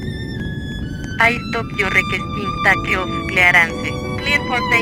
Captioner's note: speaking Spanish